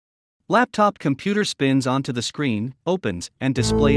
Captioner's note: automated Voice